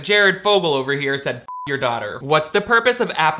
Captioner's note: beep